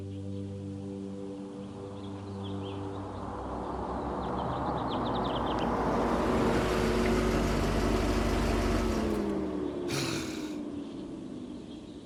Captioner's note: soundbite of car passing